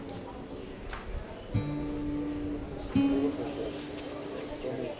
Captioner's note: indistinct chatter